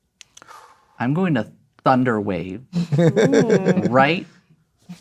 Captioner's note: laughing